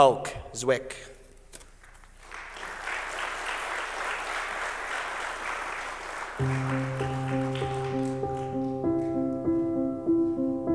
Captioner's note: applause